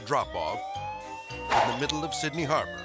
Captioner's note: sirens blaring